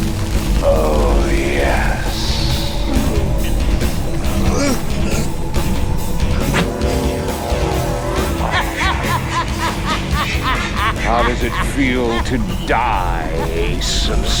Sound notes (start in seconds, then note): 3.8 groans; 7.9 laughs evilly